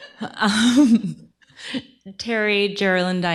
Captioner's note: laughs